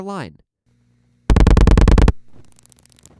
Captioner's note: 8 loud clicks; 9 quiet clicks